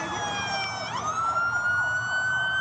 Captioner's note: sirens